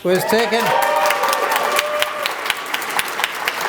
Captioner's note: applause